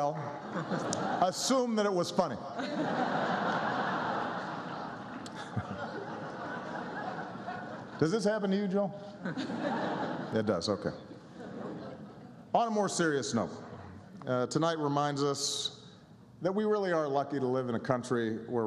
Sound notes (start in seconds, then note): 6.8 laughter